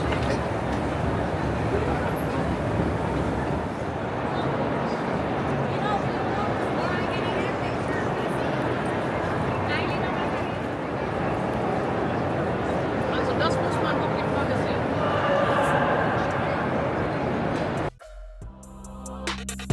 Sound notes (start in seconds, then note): 0.0 people chattering; 8.7 people chattering